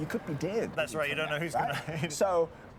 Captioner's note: laughs